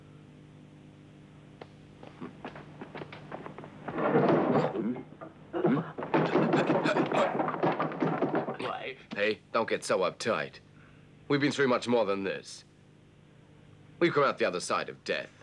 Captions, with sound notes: (door clanks) (man gasping) - Life. - Hey, don't get so uptight. We've been through much more than this. We got out the other side of death.